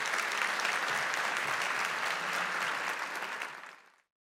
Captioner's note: audience applauds